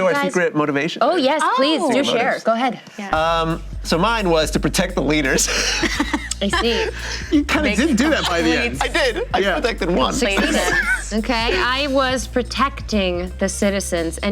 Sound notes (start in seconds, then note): 5.4 laughter